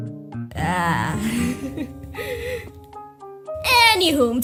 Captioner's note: noise of awkward grief